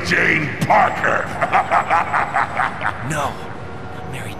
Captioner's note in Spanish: Se Ríe